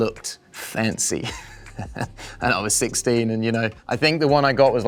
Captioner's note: chuckles